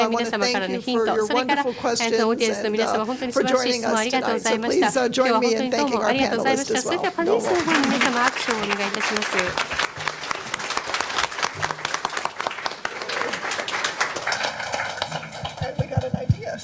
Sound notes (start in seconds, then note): 7.2 applause